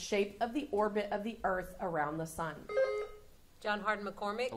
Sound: buzzer sounding

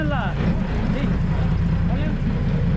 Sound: speaking in spanish; boat engine idling

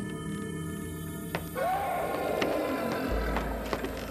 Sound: growling Continues

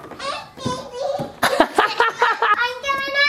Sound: laughs

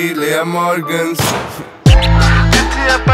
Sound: bang

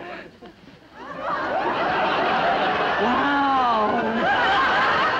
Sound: crowd laughing

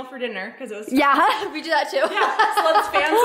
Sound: laughs

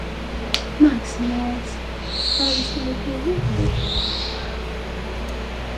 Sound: speaks softly

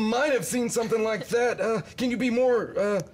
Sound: laughing

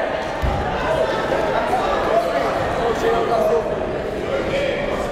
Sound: coaches and crowds yelling

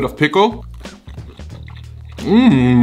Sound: chewing

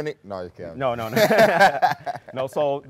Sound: both laughing

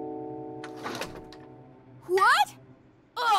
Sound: door clattering

